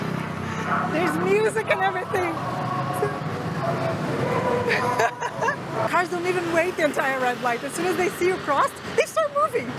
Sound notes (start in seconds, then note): 4.3 laughs